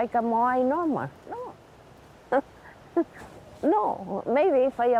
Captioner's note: chuckles